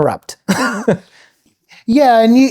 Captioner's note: laughs